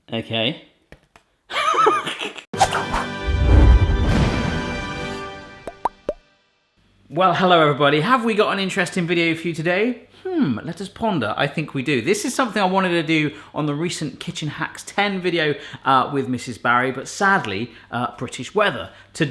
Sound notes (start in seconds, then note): 2.6 laughing; 2.9 music swelling